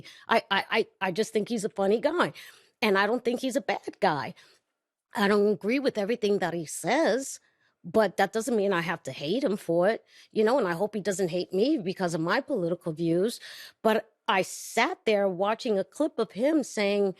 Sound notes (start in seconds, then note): none